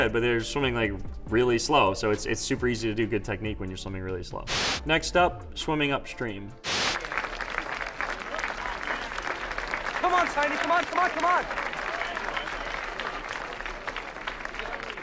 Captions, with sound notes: but they're swimming like really slow. So, it's super easy to do good technique when you're swimming really slow. Next up, Swimming Upstream. [clapping] - Come on Tiny, come on, come on, come on.